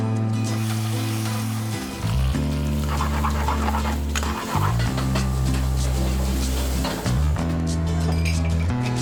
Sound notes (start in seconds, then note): 0.3 moody music; 0.4 food sizzling; 3.2 pan scraping